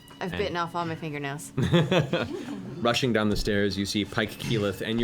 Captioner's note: laughs